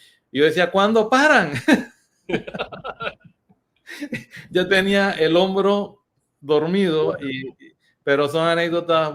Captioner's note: laughs